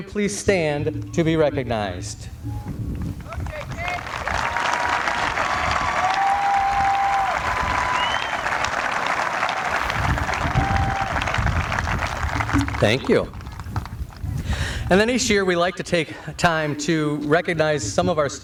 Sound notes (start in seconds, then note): 3.2 applause